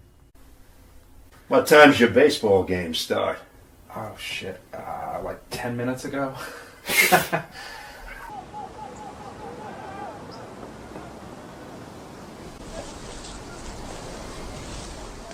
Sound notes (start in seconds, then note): 6.4 both laugh; 7.4 birds chirping; 8.0 group chattering